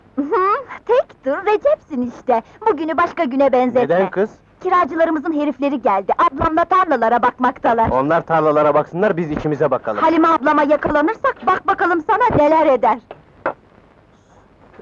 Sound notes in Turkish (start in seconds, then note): none